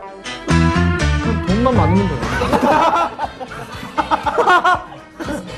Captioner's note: laugh